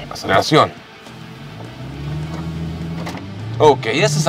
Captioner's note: engine revving